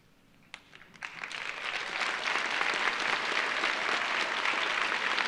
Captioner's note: audience applauding